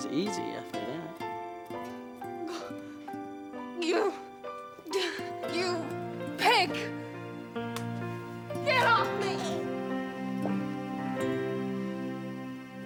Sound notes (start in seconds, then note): 2.3 gentle music; 4.8 Trudy sighs; 4.8 sighs; 7.5 gentle music